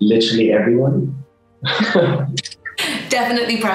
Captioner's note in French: rire